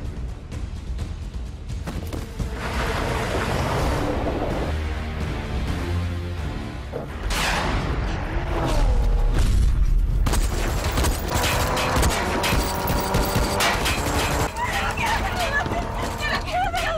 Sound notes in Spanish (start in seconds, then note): 10.6 Estruendo; 14.1 Disparos